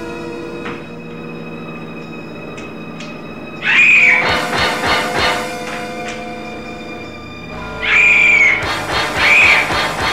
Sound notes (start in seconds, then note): 3.7 scream; 7.9 scream